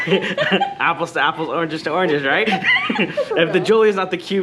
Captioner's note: laughs; laughs